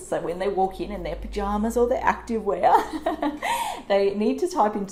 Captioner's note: laughs